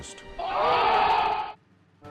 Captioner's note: cheers